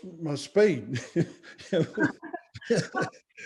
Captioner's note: laughs